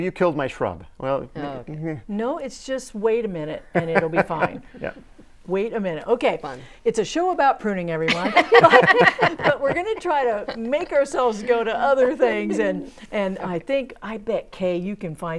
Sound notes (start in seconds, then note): 11.9 laughing